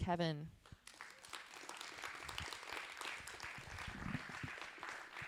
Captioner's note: audience applauding